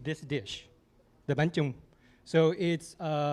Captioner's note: non-english speech